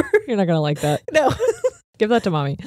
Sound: giggles

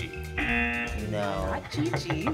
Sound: buzzer

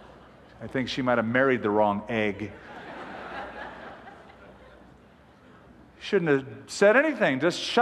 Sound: laughter

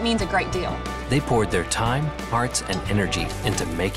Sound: voiceover

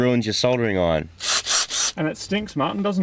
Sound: drill spins

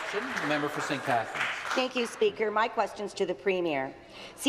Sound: applause

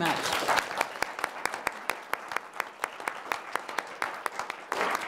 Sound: audience Applause

